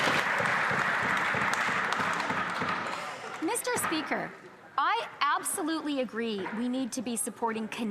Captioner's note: some Applause